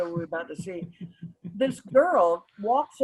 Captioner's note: chuckles